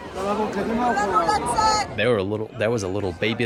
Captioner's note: woman screams in Hebrew